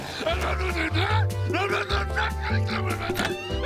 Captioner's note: grumbling